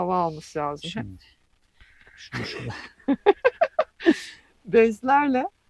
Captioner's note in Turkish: kahkaha; homurdanır